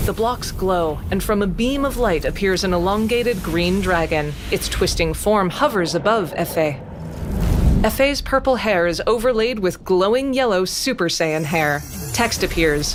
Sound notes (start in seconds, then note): 5.5 distant roaring